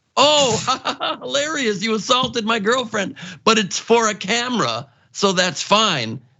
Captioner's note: laugh